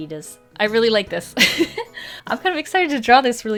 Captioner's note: laughs